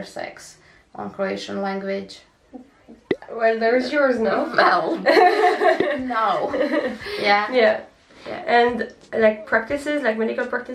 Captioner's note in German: Lachen